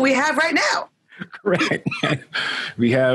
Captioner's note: laughing